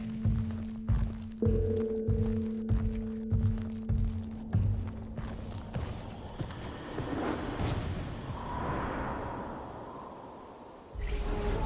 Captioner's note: footsteps